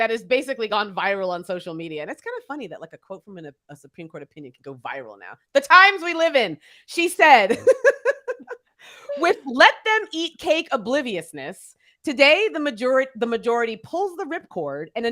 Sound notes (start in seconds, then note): 7.3 laughs